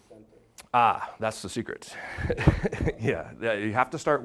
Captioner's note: laughing